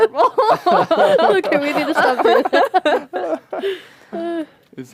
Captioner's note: laughter